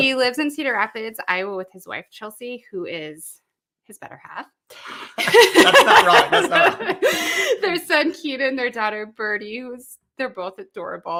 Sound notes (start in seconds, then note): 7.0 laughing